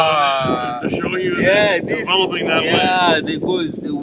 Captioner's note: wind noise